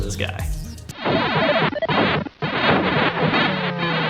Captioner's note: beeping